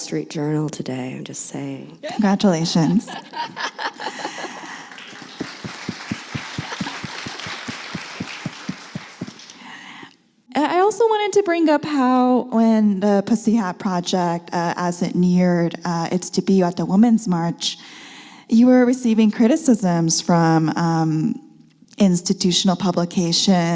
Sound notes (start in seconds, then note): 2.8 laughs; 6.0 applause